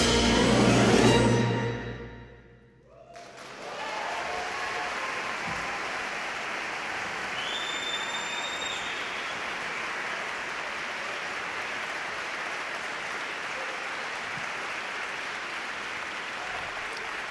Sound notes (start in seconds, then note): 3.3 audience cheering; 3.3 audience clapping